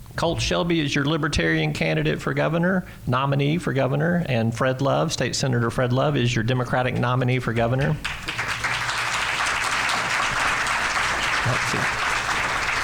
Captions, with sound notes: Colt Shelby is your libertarian candidate for governor, nominee for governor. And Fred Love, state senator Fred Love is your Democratic nominee for governor. (applause)